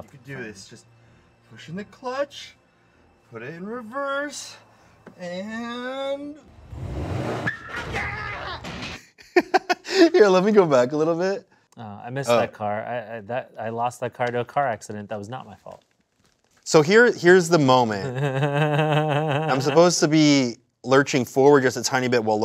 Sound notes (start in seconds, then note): 6.5 tires screeching; 7.4 screaming; 9.2 laughing; 18.0 laughing